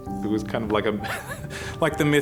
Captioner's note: chuckling